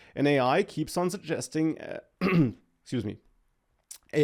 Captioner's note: clears throat